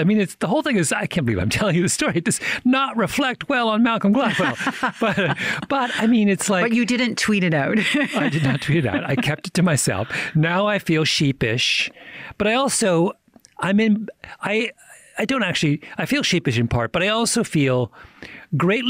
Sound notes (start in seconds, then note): 4.2 laughter; 4.2 chuckles; 7.7 laughs